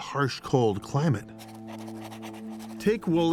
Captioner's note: pen scratching